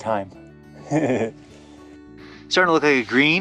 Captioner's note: chuckling